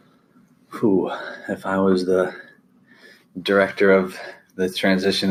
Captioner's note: sighs